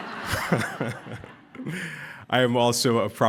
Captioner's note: laughter